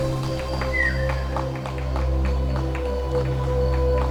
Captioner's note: applause